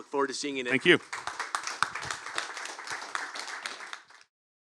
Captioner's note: applause